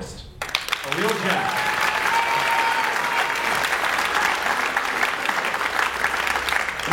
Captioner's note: is drowned out by audience applause